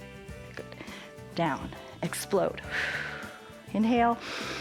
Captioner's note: exhales; inhales and exhales